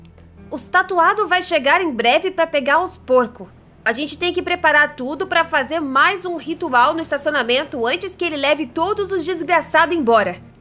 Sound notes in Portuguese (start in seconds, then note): none